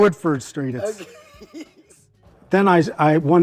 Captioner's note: laughs